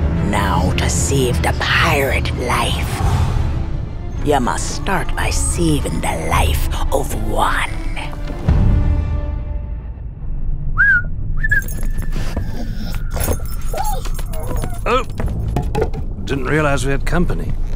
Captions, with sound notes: Now to save the pirate life, you must start by saving the life of one. [WHISTLING] [DOG WHINES] Oh, didn't realize we had company.